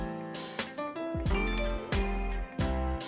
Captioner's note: phone chimes